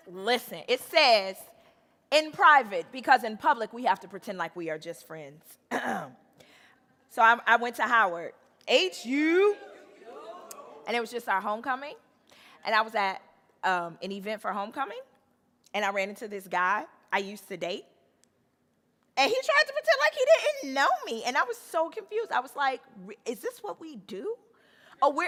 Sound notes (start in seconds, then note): 5.7 clears throat; 9.2 audience cheering